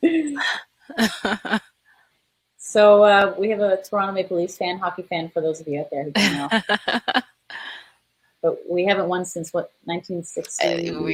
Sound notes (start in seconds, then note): 6.1 laughing